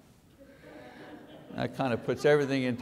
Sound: audience laughing

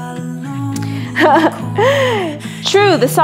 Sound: laughs

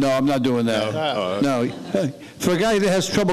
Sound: laughing

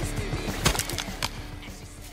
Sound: crunching noises

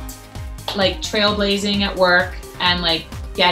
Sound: claps

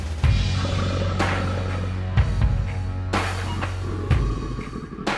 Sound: crocodile growls

